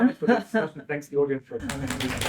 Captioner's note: applause